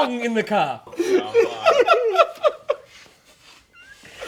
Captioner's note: laughing; laughs